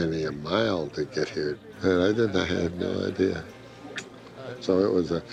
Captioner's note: kisses